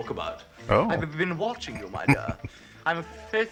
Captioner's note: chuckling